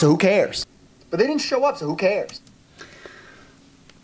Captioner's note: through speaker